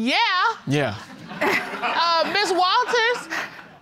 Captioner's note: audience laughing